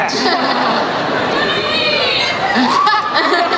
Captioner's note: crowd shouts